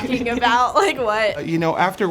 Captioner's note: laughing